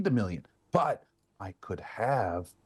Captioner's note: none